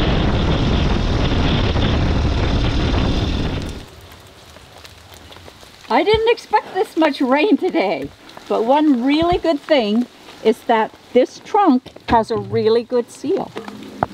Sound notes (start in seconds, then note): 0.0 engine roaring; 3.0 rain drizzling